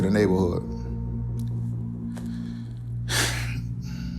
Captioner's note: sighs